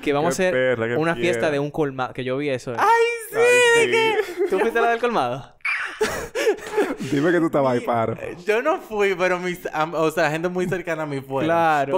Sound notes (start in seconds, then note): 5.6 laughs